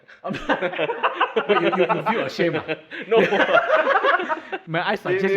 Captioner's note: laughs